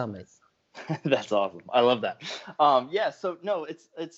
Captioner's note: laughs